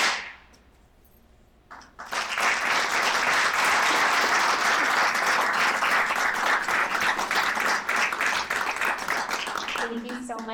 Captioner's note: applause